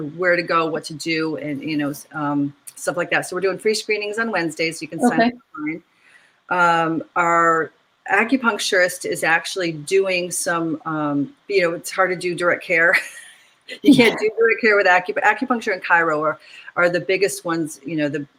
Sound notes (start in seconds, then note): 13.8 laughs